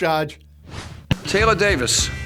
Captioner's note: logo swipes